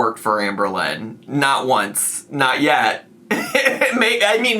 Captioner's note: laughs